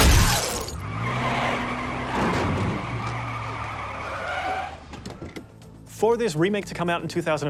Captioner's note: glass shatters; tires screech; body thuds